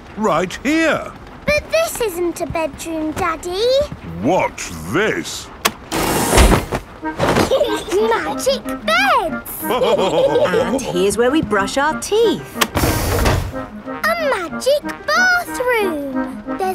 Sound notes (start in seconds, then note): 7.4 laughing; 9.6 all laughing